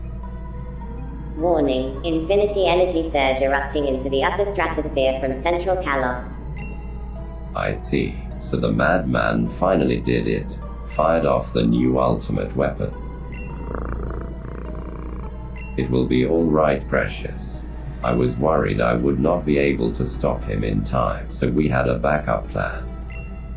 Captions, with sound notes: [Feminine robot voice] “Warning, infinity energy surge erupting into the upper stratosphere from central Kalos.” [Robotic male voice] “I see… so the mad-man finally did it… fired off the new ultimate weapon…” [Purreshiss purrs] [Robotic voice] “It will be alright Purreshiss, I was worried I would not be able to stop him in time… so we had a backup plan.